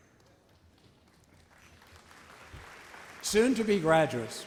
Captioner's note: audience applauds